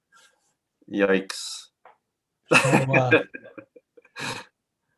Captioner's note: laughs